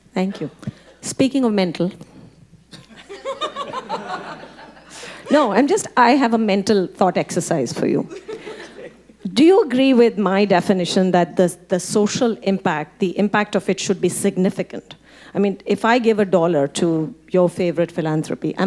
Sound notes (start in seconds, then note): 2.8 audience laughing; 8.1 audience laughing